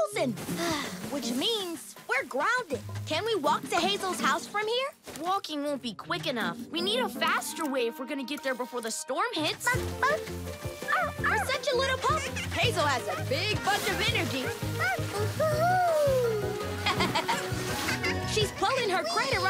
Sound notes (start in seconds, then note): 16.8 Freddy laughs